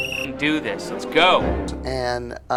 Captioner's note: whistle